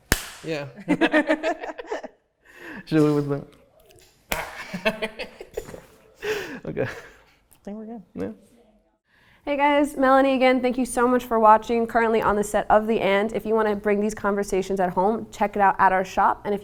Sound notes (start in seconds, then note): 0.1 claps; 0.8 both laugh; 4.3 claps; 4.4 both laugh